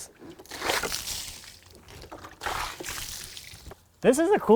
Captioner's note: water sloshing